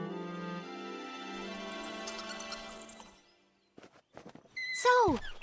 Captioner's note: bats Twittering